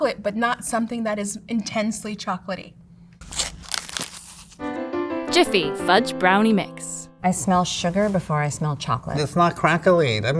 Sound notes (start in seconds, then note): 3.2 cardboard tearing; 3.2 paper crinkling